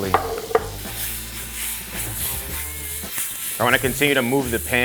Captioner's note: food sizzles